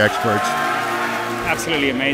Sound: applause

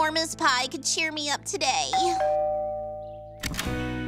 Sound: doorbell rings

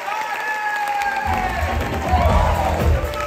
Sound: whooping, rhythmic clapping

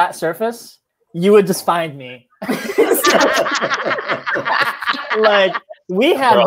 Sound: laughter

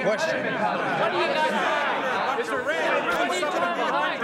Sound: shouting

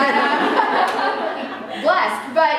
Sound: laughter

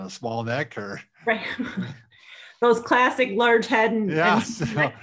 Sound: laughs

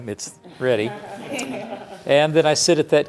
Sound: laughing

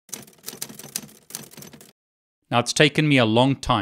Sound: keyboard clacks

